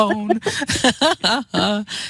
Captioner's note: laughter